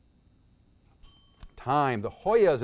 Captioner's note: bell dings